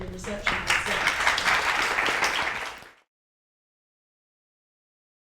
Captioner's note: applause